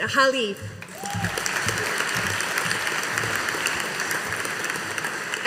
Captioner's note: audience applauding